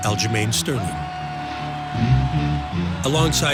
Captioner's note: crowd cheering